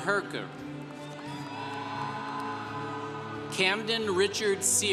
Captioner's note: congregation cheering